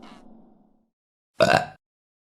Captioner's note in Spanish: Eructo